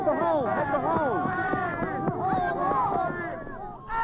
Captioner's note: yelling and cheering